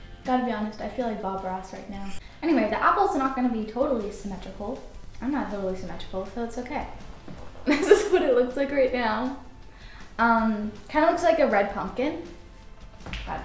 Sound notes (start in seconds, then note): 7.6 chuckles